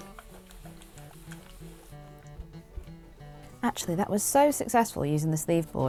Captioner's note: iron sizzles